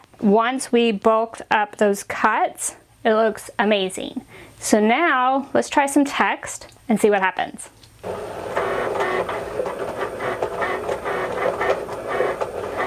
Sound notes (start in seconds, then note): 8.0 Cricut whirring